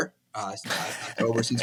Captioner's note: laughs